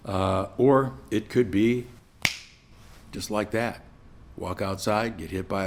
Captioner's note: snap